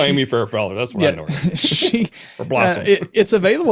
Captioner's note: laughs